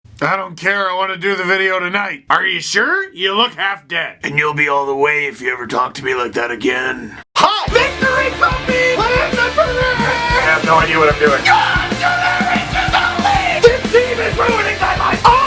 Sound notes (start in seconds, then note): 4.9 pirate Voice